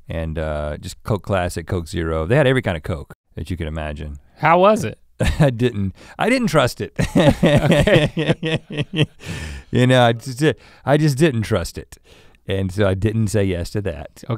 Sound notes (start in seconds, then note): 7.0 laughs